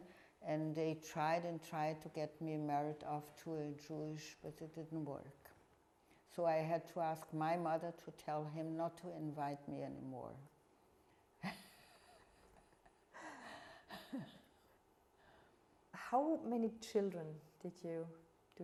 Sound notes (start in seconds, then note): 11.4 laughing